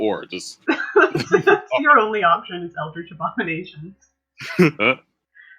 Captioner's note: laughter; laughter